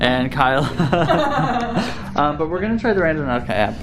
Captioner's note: laughing; laughs